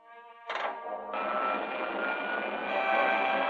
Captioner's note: engines whirring